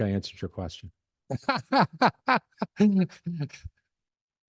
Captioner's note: laughter